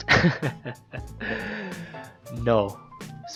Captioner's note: inhales